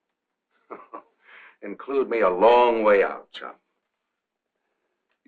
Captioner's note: chuckling